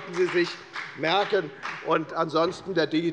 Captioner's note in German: Beifall bei der FDP